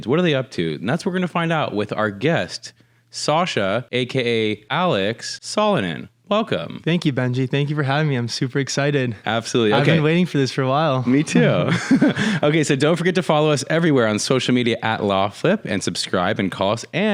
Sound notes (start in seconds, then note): 11.1 laughs